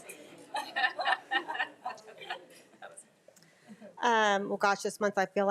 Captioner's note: crowd laughing